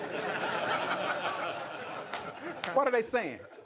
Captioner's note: laughter